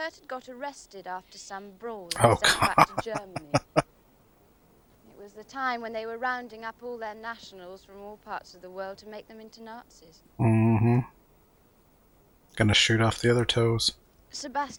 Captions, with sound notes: Oh gah. [Laughing] Mm-hmm. Going to shoot off the other toes.